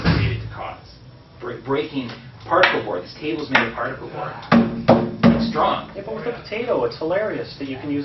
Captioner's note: bangs on the table